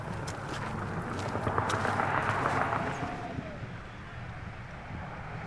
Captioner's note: wind whistling